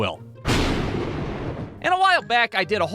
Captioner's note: thunderclap!